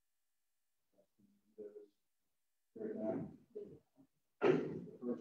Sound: silence

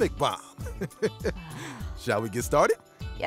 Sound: laughs

